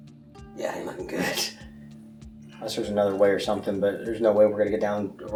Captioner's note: nervous laugh